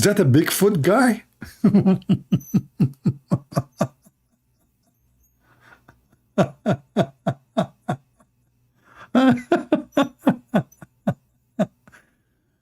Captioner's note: Ketawa